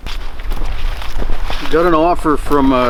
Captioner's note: footsteps rustling in snow